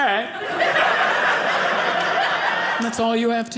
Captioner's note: audience laughing